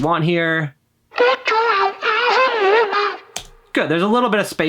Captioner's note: distorted vocals